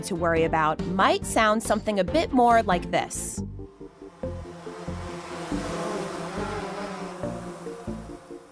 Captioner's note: buzzing sound